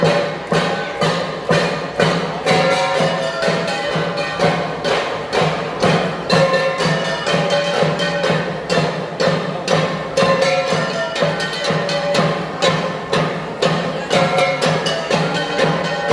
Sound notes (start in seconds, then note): 7.2 gong sound